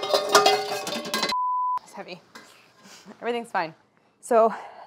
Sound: beep

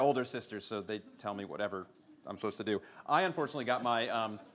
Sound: laughter

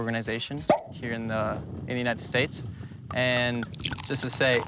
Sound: cork pops

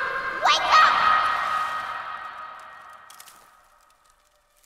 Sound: twigs snapping

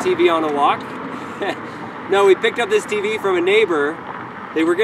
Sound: laughs

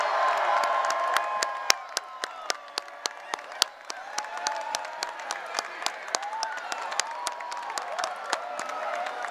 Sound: cheering, applause

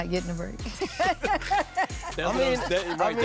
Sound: laughs

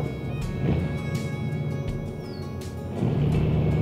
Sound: car starts

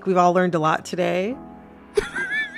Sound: laughter

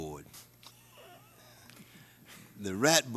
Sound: laughter

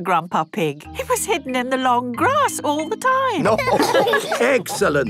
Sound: laughter

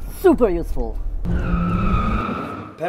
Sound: car tires screeching

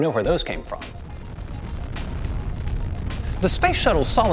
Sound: shuttle boosters rumbling

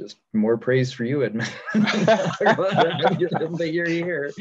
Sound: laughing

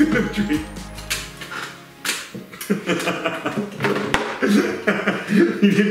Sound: laughs

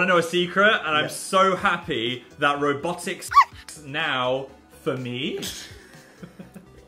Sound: dog barking

